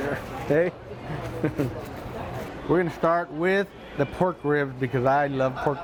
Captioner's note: laughs